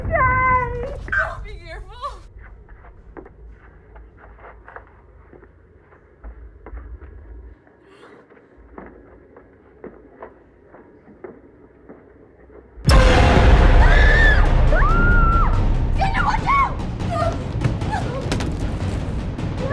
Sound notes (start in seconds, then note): 13.8 Pilar and Shelley scream